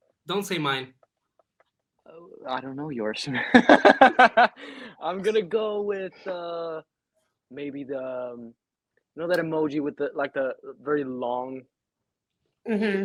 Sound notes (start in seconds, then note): 3.6 laughing